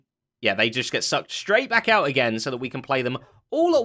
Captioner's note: none